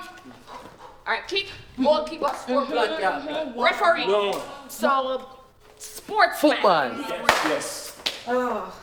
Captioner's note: multiple people talking